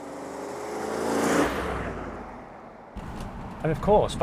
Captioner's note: more lovely V8 noises